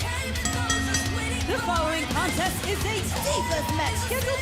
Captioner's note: bell rings